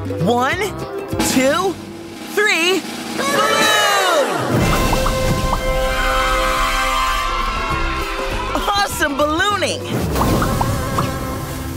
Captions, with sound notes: One, two, three, balloon! [popping] [cheering] Awesome ballooning! [popping]